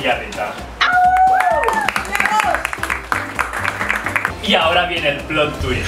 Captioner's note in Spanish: aplausos